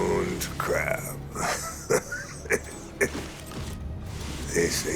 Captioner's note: laughing